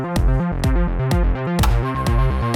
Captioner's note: rivet gun clicks